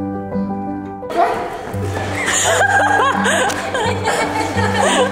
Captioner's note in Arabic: زوجة آرون تضحك